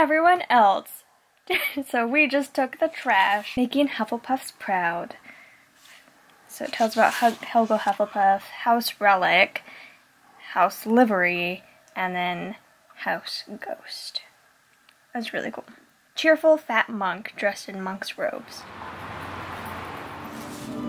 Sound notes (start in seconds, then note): 18.4 street noise; 20.4 light restaurant noise & chatter